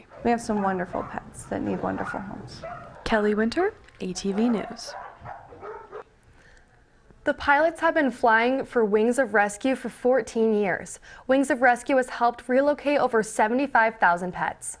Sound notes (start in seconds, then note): 4.1 dogs barking